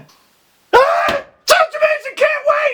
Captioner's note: slams